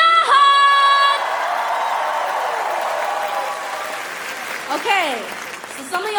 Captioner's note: cheering; applause